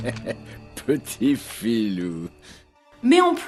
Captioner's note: laughs